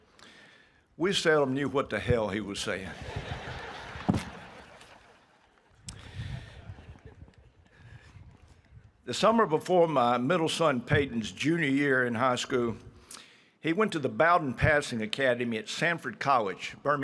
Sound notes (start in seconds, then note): 2.9 audience laughing